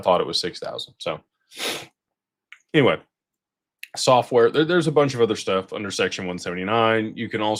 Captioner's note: snorts